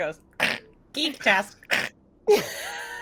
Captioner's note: snickers